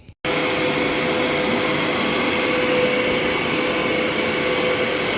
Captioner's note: cleaner running